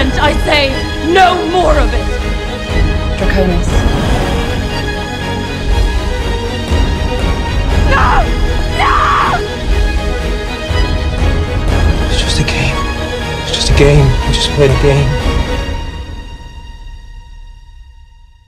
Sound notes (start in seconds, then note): 8.7 Isabelle, screaming